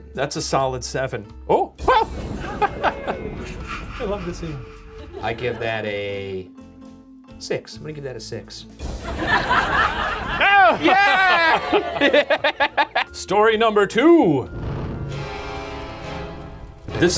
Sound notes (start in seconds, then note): 2.5 laughs; 9.0 audience laughing; 12.0 laughing; 15.2 dramatic music